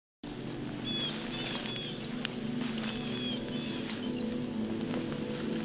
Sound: peaceful music; birds chirping

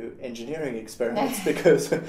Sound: laugh

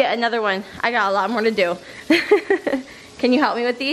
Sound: laughs

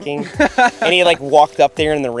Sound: laughs

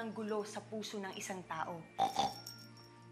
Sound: snorts

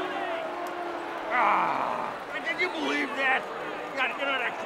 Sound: audience booing

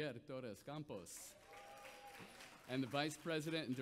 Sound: audience applauds

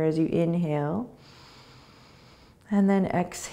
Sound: inhaling

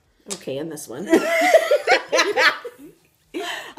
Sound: all laugh

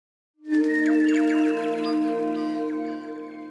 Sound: birdsong, mystical chiming

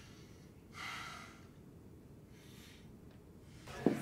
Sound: Brian sighs

